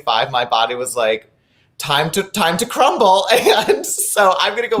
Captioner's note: laughing